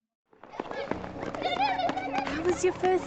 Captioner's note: children shoes clacking